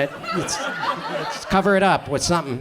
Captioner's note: audience chuckles